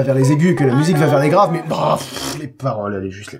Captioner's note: sigh